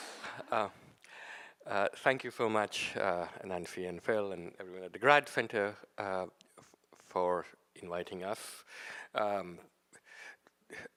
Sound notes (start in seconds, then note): none